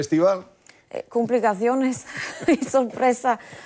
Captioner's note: laughter